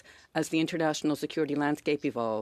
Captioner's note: speaking French